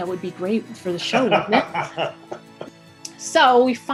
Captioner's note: laughter